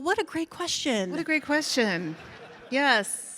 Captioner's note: audience laughs